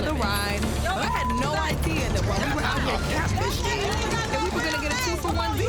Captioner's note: overlapping chatter